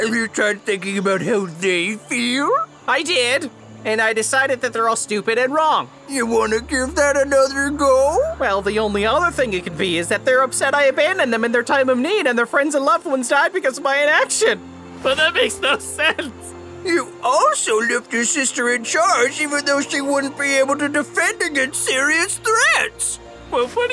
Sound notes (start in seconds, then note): 16.4 sobs